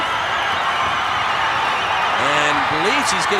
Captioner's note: audience cheering